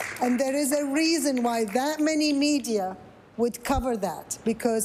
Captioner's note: some Applause